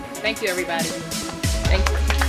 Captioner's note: applause